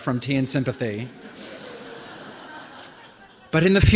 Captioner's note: laughter